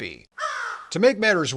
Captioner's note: crow caw